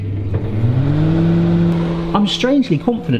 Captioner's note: machine hums